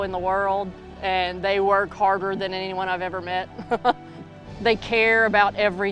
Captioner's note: laughs